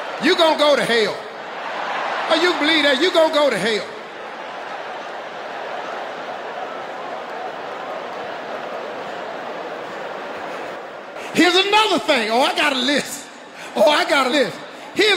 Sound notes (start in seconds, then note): 4.1 audience laughing